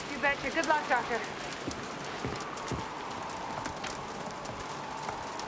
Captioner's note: none